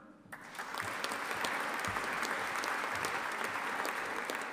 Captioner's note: audience applauding